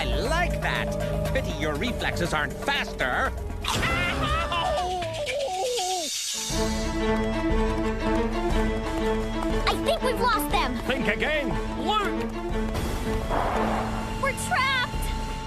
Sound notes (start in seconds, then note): 3.6 chomping